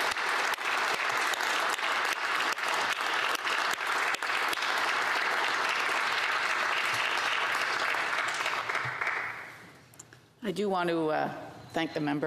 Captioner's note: applause